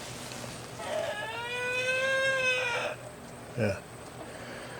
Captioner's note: weird chicken noise